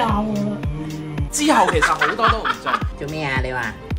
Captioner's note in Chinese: 哈哈哈哈哈